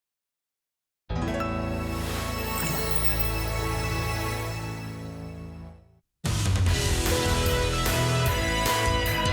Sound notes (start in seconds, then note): 1.7 bells chiming; 6.4 energetic music